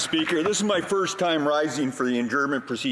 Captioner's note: some Applause